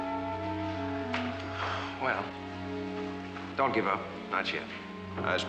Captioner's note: sighs